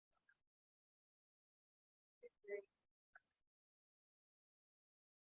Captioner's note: student quietly talking